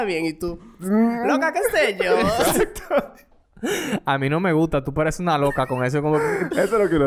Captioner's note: laughs